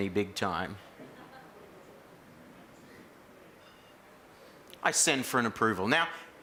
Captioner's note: laugh